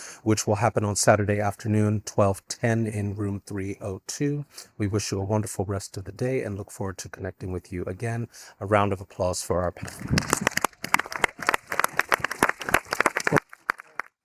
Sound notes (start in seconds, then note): 10.0 audience applauding